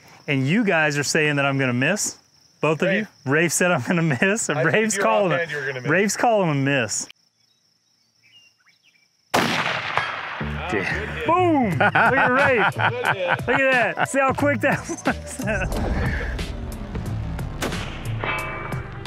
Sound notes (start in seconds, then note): 9.3 rifle firing; 16.3 upbeat music